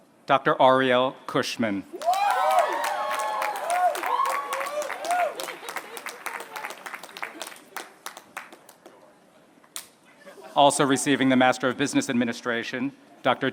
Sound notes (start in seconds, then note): 1.9 applause